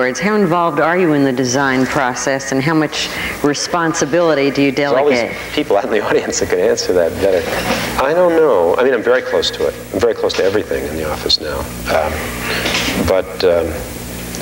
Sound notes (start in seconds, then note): 4.8 laughing; 7.4 audience laughing